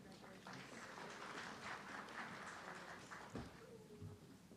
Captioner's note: audience clapping